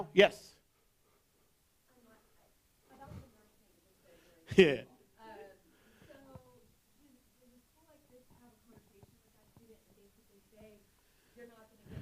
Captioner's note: background voices